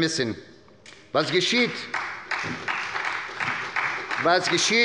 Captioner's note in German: Beifall bei Abgeordneten der SPD